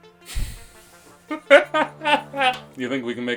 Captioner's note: laughs